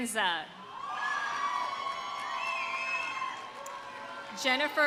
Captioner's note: audience cheering; audience applauding